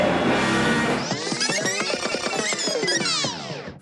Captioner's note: tape whirrs